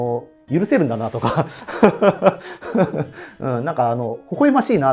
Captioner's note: laughing